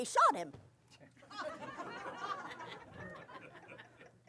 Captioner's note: laughter